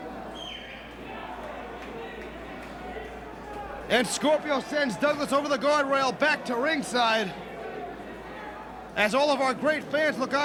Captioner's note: crowd chattering